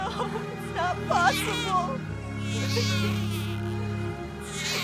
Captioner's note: crying